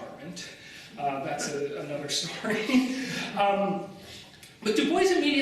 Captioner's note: laughs